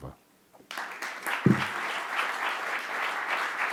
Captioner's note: applauding